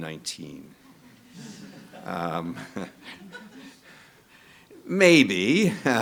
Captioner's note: audience laughing